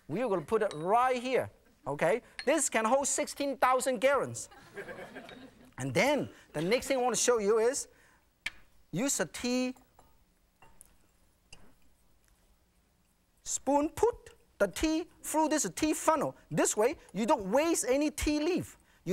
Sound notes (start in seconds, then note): 4.5 audience laughing